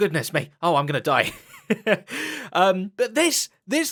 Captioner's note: laughs